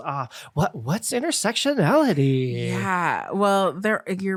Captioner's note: fake voice